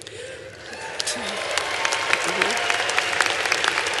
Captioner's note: applause